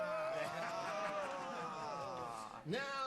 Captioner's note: chuckles